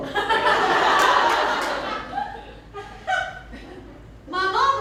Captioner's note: laughter